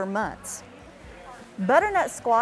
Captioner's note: people chattering